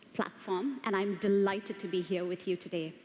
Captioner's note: none